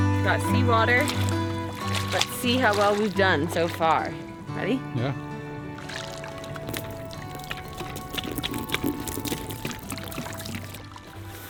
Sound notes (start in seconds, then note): 6.8 water splashing